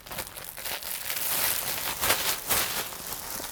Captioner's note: bag crinkling